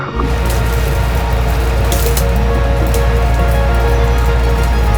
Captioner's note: oxygen tank hissing; branches snapping; upbeat instrumental music continues